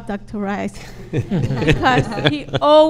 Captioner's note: laughs